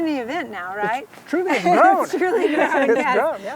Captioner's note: laughing